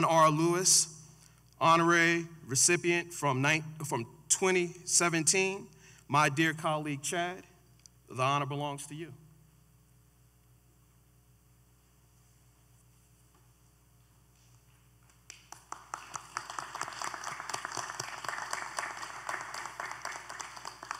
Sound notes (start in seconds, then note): 15.1 applause